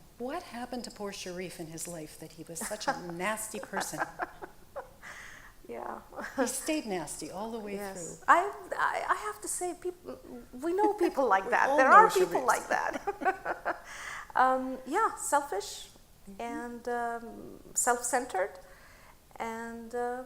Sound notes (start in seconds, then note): 3.5 laughs